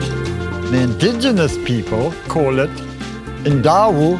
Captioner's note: speaks native language